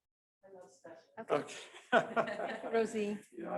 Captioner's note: laughs